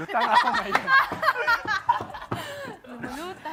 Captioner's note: laughing